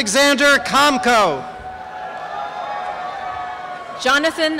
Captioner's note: cheering and applause